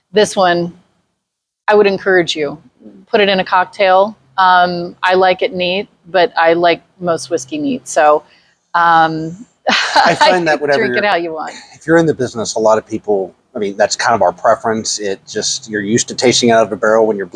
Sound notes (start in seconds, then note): 9.7 laughs